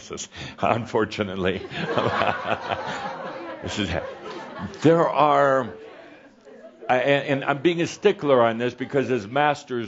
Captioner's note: some chuckles and Adamus chuckles